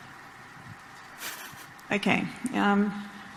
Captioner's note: chuckles